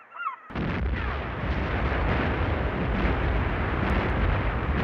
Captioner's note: cannons firing